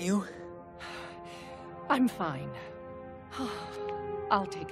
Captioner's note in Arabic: تنهد